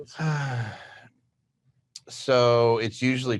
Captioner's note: sighs